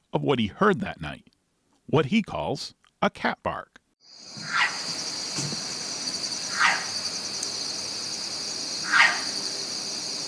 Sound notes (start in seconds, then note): 4.0 crickets chirp; 4.2 cat barks